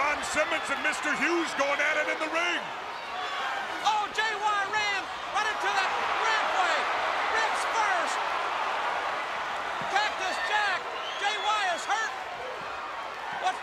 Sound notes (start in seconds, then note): 7.4 crowd cheering